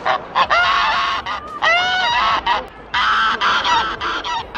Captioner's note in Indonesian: berteriak